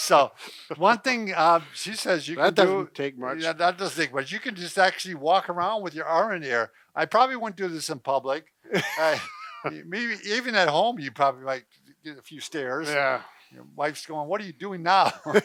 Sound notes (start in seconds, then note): 8.7 laughing